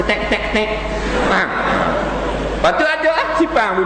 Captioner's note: laughter